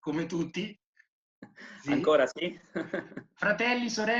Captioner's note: laughing